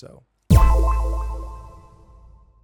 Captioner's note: tone echoing